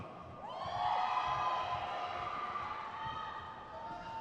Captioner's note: crowd cheers